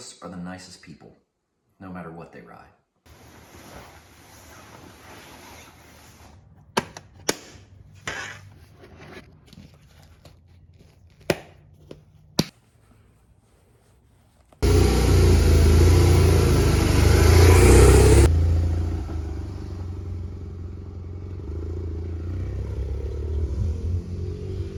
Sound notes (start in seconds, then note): 6.3 latches clicking; 16.2 motor